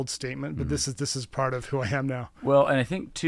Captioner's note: laughing